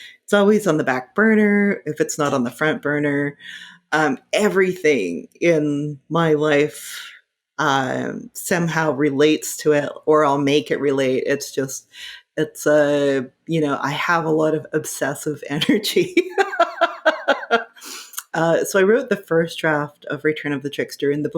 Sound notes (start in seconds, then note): 16.2 laughing